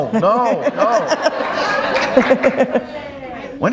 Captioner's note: laughter